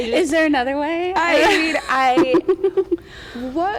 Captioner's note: laughs